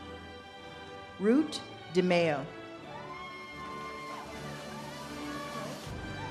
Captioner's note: audience cheers and claps